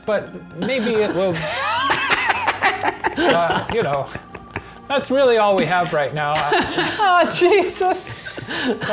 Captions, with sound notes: but maybe it will-- (others laughing) You know, that's really all we have right now. - Aw, Jesus!